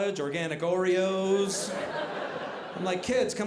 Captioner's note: audience laughing